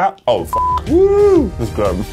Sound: beep

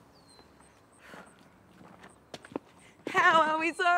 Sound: Zoe sighs

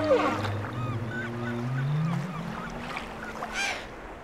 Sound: whale Noise

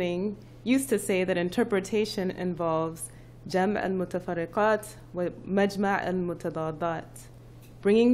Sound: non-english speech

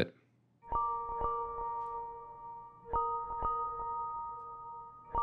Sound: ringtone

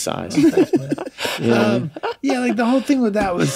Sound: all laugh

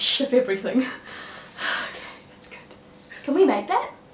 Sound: whispers

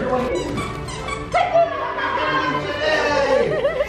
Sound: excited cheering; dog toy squeaking

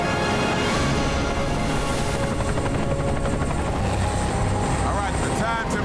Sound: dramatic music; helicopter rotors thumping

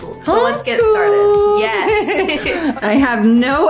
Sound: in high pitch voice

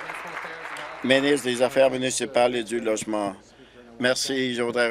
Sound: applause

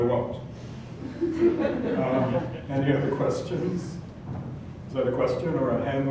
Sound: laugh

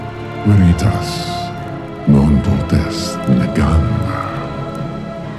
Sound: speaks in foreign language

